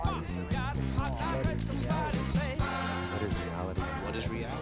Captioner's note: shutter Clicking